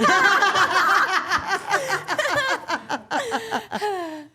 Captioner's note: all laughing